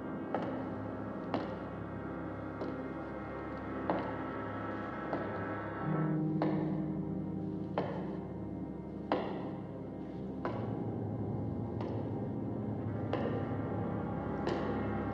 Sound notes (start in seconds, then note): 10.0 footsteps Continue